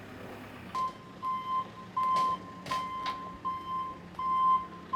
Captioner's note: telehandler beeping